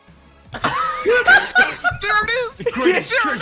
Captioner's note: laughter